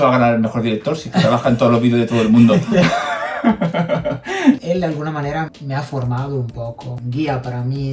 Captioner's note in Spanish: risas